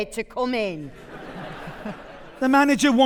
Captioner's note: audience laughing